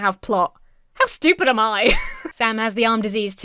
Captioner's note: Emma laughs